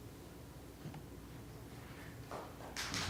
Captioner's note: applause